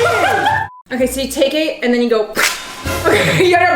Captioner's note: laughing; imitates ripping; laughs